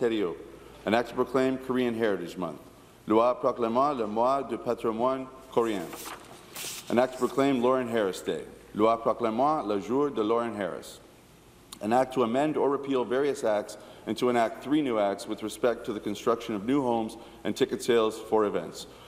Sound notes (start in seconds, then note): 0.0 speaking in French; 13.2 speaking in French